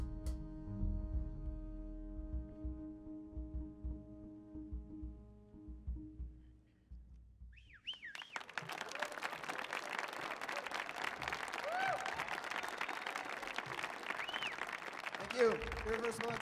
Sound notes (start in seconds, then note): 7.6 audience whistles; 7.9 audience cheers and applauds